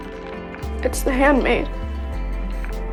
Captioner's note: voiceover